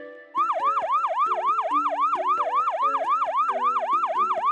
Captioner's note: firetruck sirens